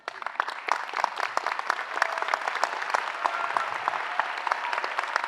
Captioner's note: cheering applause